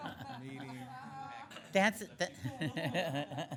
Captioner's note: laughing